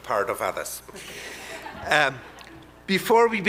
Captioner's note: audience laughing